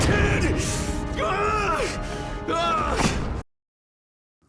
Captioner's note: groan